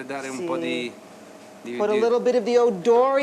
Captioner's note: speaking Italian